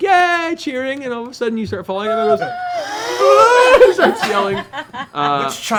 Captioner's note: screaming